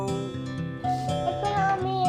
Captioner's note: doorbell rings